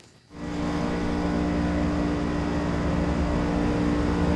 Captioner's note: machinery whirring